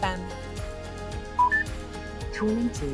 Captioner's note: instrument panel beeps; electronic Voice